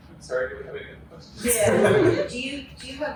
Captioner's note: laughter